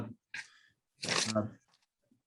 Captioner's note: paper rustling